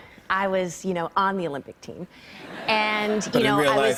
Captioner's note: laughter